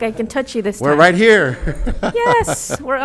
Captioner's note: laughs